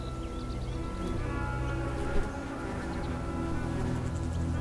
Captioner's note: insect buzzes